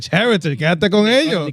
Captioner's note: speaking In Foreign Language